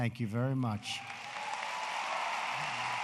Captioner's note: applause